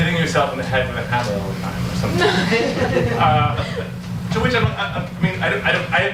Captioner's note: audience laughs